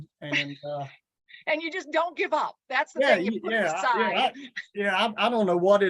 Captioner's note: chuckles